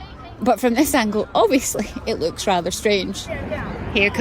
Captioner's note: laughs